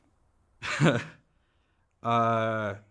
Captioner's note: chuckles